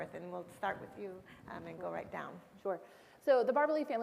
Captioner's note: none